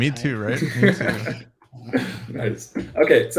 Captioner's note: laughs